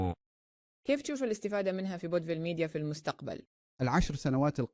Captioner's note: speaking Arabic